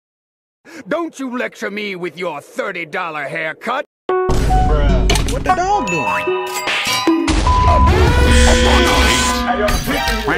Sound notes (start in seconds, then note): 4.2 some minecraft sounds; 7.2 bonk